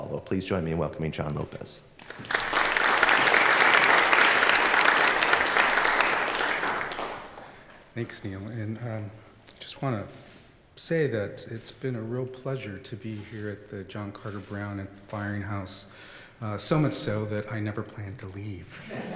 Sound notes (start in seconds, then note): 2.0 applause